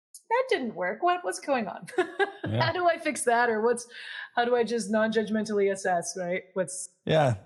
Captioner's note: laugh